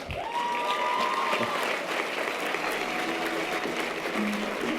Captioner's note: audience applause and cheers; string orchestral music